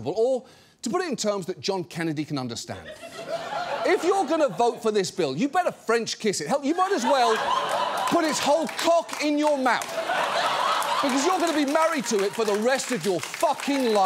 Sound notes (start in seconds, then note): 2.8 studio audience laughs; 6.6 studio audience laughs